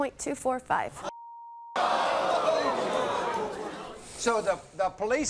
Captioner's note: audience groaning